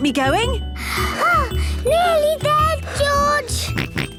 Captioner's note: panting; snorts